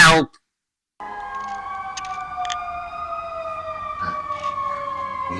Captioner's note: sirens